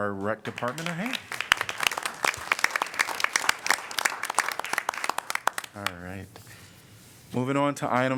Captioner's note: applause